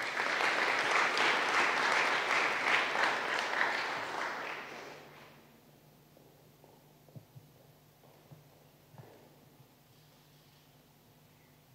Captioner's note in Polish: oklaski